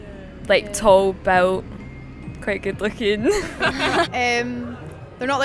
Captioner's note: laughs